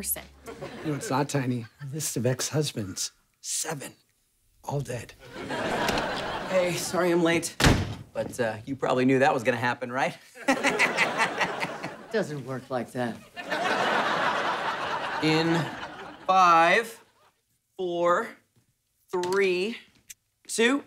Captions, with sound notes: You know what's not tiny? Her list of ex-husbands. Seven. All dead. Hey, sorry I'm late, but, uh... You probably knew that was gonna happen, right? [laughing] Doesn't work like that. In five, four, three, two...